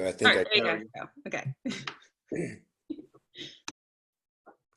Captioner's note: laughter